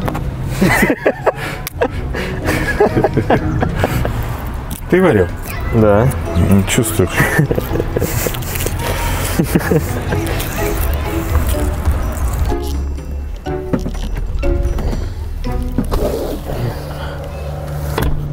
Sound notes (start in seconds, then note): 0.5 laughing; 8.3 laughing